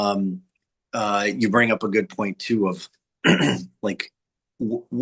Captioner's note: clears throat